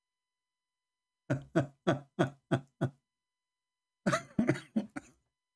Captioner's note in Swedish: Skratt